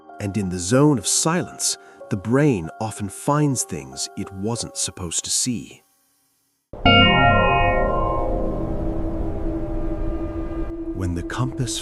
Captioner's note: bell rings